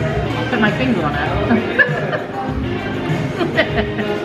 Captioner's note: laughing